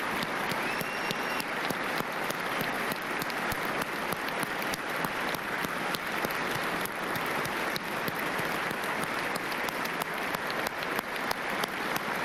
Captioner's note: applause